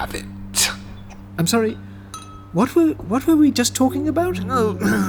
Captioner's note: confused